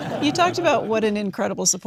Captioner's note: audience laughing